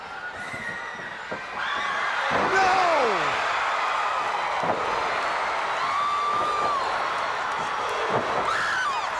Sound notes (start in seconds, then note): 3.3 canvas thudding; 6.4 crowd cheering